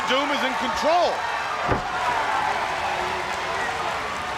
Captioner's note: crowd cheering